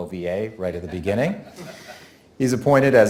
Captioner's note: audience laughing